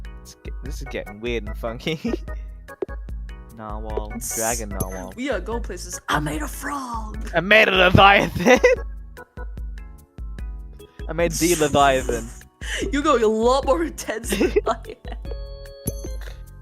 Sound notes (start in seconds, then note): 4.4 hissing; 11.4 snickering